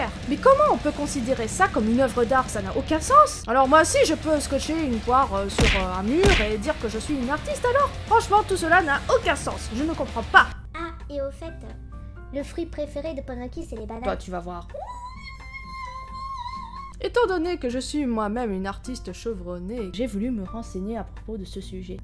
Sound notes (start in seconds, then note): 14.8 screams